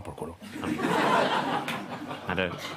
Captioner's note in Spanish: Risas